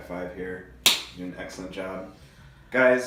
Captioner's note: hands slapping